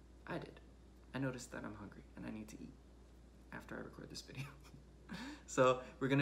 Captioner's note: laughs